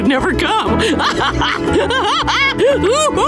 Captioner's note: laughing